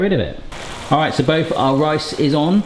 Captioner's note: pans sizzling